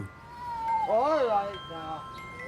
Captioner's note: child crying